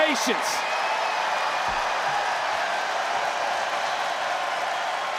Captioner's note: crowd clap and cheer